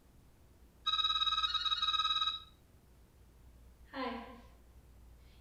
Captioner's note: phone ringing